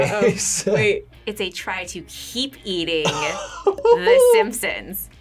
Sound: laughs

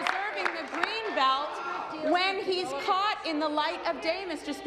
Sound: applause

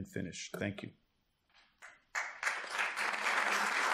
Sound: applause

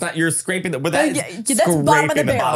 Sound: laughing

